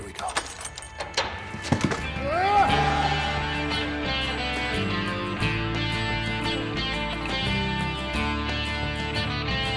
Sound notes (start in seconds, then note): 0.0 footsteps treading; 2.9 narrator yells; 4.7 dramatic rock music